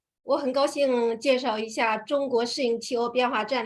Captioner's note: speaking in Mandarin